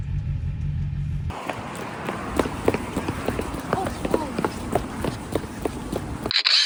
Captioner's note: running